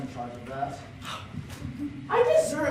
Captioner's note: tiny gasp